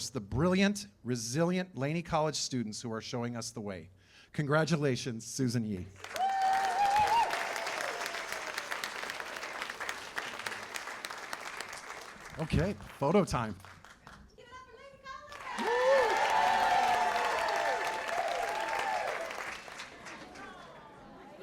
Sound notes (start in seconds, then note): 6.0 cheers and applause; 15.2 cheers and applause